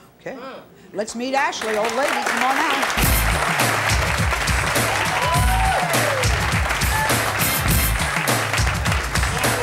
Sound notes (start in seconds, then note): 2.9 uptempo music; 3.0 audience clapping